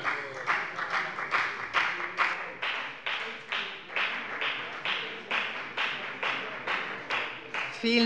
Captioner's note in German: Beifall bei der FDP